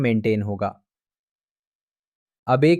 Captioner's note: pause